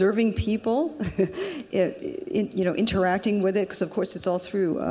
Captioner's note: laughs